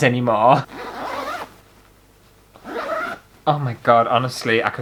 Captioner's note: zip Sounds